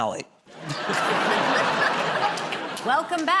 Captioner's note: laughter